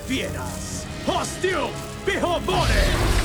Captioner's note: chanting